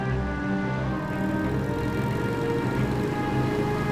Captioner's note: engines hum